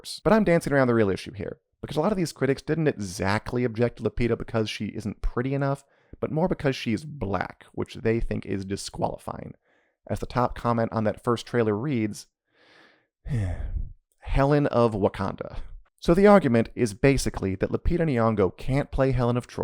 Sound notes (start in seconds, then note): 13.2 sighs